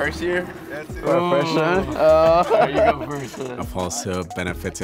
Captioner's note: laughing